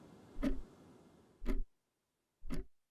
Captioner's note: clocking ticking louder